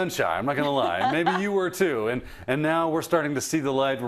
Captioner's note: laugh